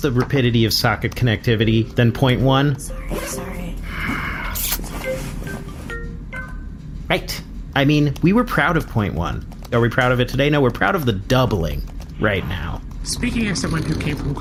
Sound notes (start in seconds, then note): 3.8 sighs; 4.9 phone ringing